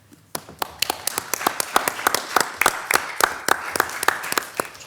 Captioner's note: audience applauding